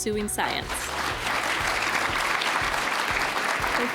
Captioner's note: applause